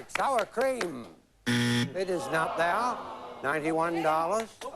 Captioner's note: buzz